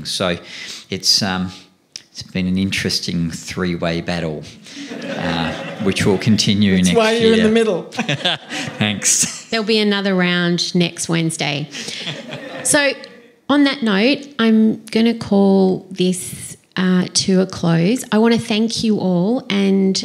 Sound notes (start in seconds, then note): 4.7 laughter; 7.0 laughs